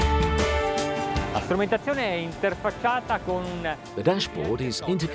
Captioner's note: speaking Italian